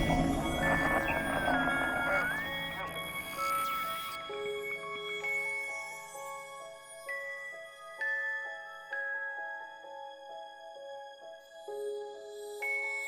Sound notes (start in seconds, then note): 2.4 radio chatter fades